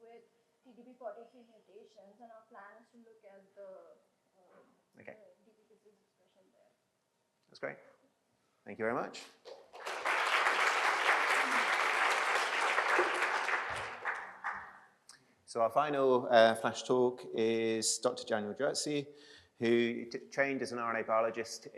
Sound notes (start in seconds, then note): 9.5 applause